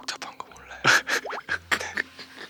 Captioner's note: burst out laughing